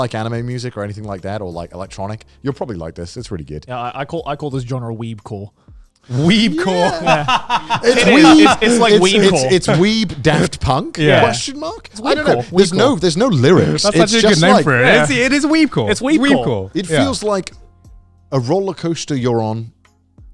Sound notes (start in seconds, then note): 6.1 laughing